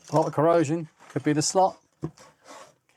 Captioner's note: none